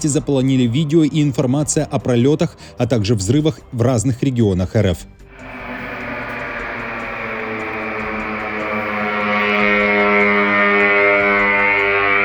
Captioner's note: drone sound